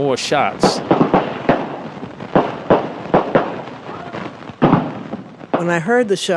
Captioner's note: audio from the march of gunshots